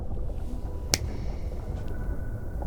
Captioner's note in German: Fingerschnippen